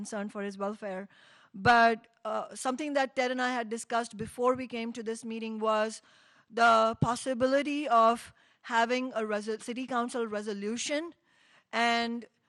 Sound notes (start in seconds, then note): none